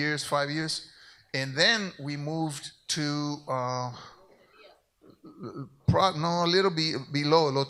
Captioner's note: speaks in Spanish